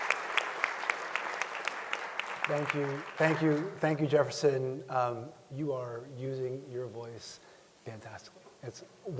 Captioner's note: applause